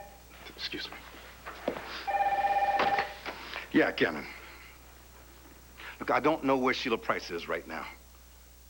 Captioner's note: telephone rings